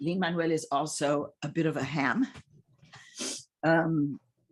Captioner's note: none